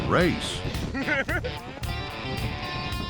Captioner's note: laughter